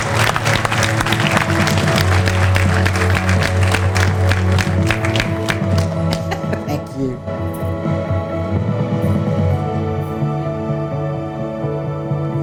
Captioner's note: applause